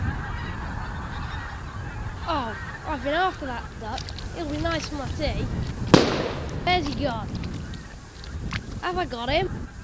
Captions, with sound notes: Oh, I've been after that duck. He'll be nice for my tea. [shot fired] Where's he gone? Have I got him?